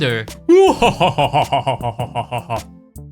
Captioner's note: laughing